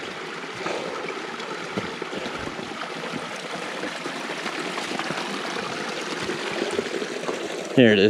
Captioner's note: heavy Breathing